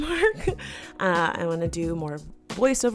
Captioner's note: laughing